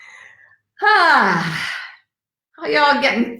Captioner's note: exhales